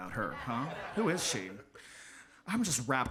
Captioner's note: audience laughs